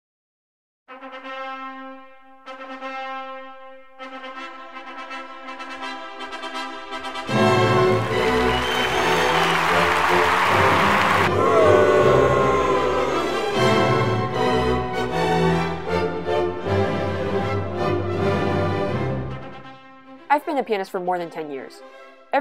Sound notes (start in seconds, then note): 7.4 crowd cheering; 11.3 crowd booing